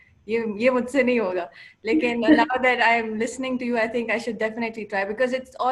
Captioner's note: speaking Urdu